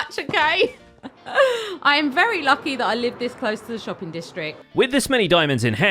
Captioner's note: laughs